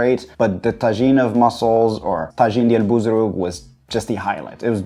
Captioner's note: man speaking Arabic